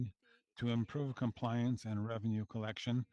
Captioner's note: speaking French